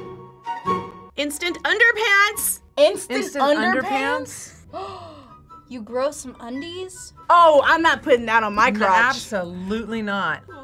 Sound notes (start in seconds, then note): 0.1 playful music; 4.6 gasps